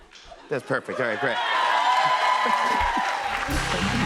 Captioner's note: cheers and applause